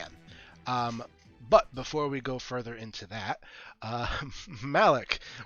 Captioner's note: chuckles